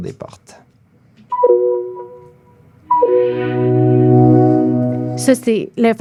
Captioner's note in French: son de la fermeture des portes du REM